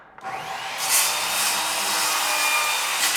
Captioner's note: whirring